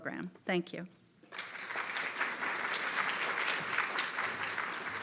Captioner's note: audience applauds